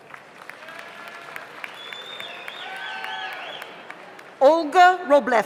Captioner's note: audience applauds; audience cheers